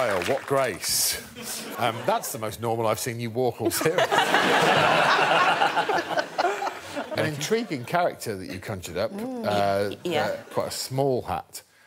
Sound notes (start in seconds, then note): 6.5 laughter